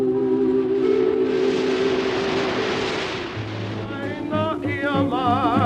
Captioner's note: waves gently breaking; luau music